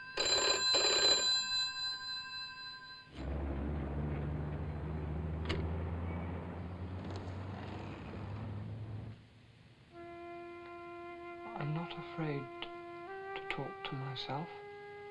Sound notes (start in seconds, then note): 0.0 phone rings; 5.4 phone clicks into receiver